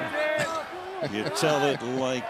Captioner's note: laughs